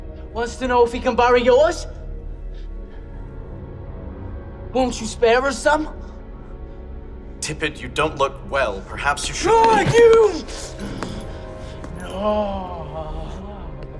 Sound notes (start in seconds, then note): 10.5 Tippet snarls